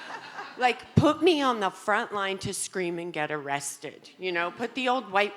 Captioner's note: audience laughing